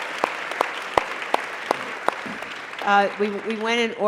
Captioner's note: applause